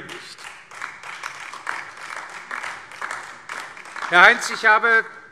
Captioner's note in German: Beifall DIE LINKE und SPD